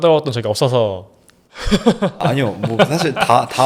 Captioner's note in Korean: 웃음